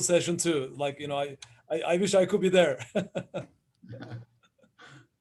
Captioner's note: laughs